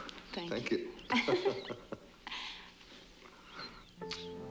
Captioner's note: laughing; romantic orchestral music